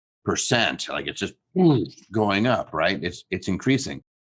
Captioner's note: mimics explosion